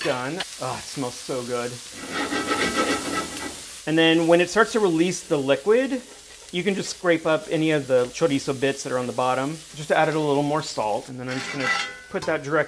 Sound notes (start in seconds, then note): 2.0 pan rattling on stove; 2.4 sizzling